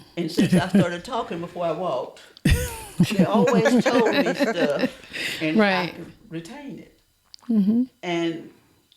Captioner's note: laughter